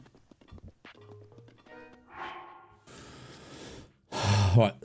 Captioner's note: sigh